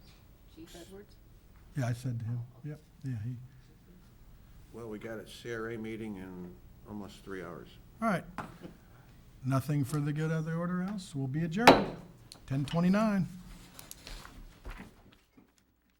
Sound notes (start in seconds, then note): 11.6 gavel taps